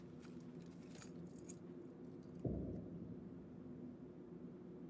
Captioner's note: metal clinking